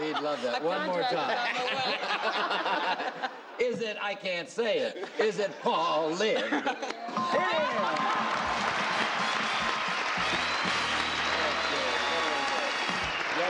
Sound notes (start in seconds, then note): 1.2 laughing; 9.0 applauding